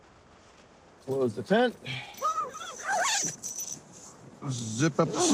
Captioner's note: pulling zipper